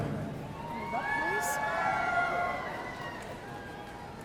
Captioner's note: audience cheering